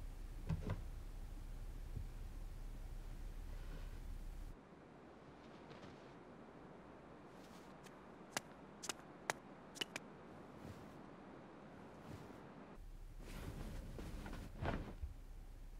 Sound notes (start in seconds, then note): 8.3 footsteps clacking